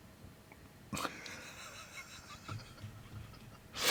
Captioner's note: laughing